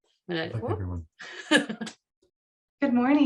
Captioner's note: laughs